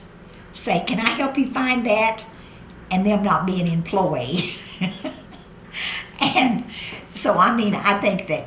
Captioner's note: laughs